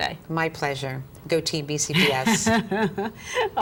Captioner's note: laughter